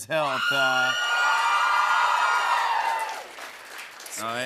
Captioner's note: cheers and applause